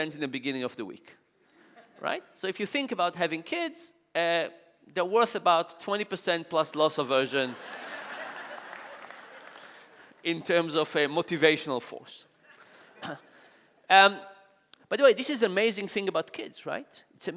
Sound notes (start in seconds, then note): 7.5 audience laughing